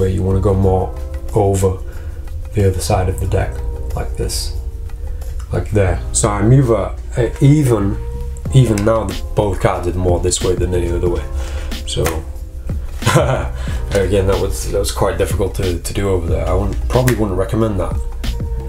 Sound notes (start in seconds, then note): 13.0 laughs